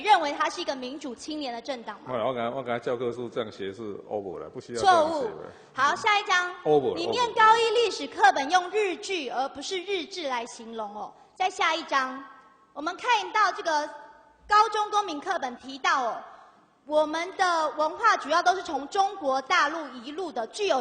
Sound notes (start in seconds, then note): 2.4 Taiwanese; 3.0 Mandarin